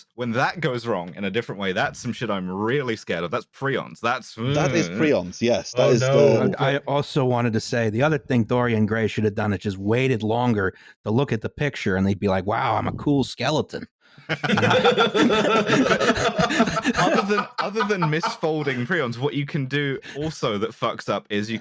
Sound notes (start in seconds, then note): 14.3 everyone laughing